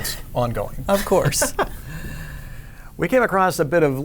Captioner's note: laughter